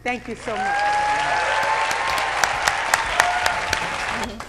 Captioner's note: applauding